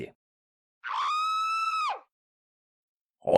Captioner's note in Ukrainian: жіночий крик